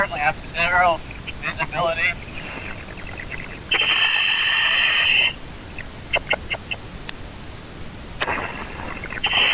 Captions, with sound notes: I currently have zero visibility. (oxygen pipe whirling)